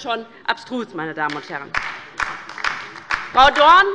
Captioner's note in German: Beifall bei der LINKEN